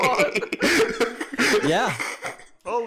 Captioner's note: laughter